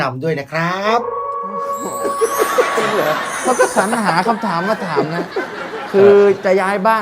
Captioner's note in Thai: หัวเราะ